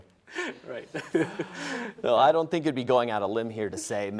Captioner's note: laughs